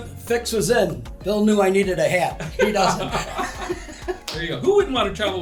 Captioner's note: laughter